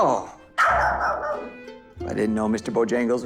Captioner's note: dog barking